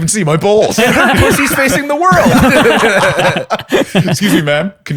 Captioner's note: laughter